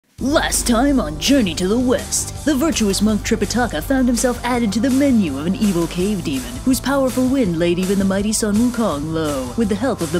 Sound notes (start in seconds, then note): 0.0 Dramatic voice